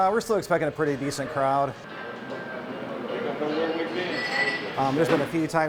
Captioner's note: nats of crowd